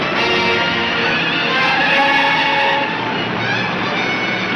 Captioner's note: tires squealing